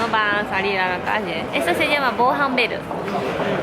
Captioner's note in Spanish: en japonés